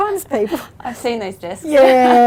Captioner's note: laughs